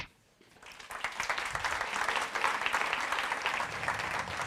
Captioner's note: audience applauds